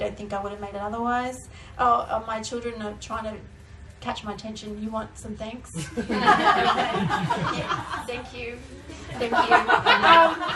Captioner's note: laughter